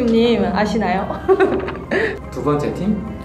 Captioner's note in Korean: 웃음